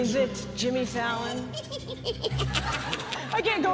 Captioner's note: creatures cackling